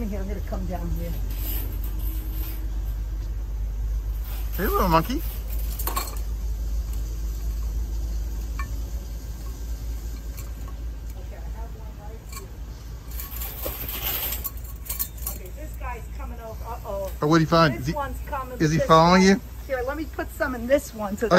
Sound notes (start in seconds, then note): 1.6 chain rattling; 6.1 cup rattling; 13.0 chain rattling